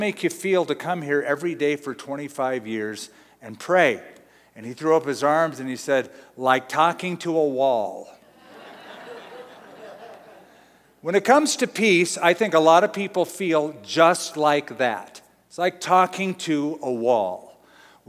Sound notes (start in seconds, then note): 8.4 laughing